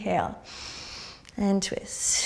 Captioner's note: inhaling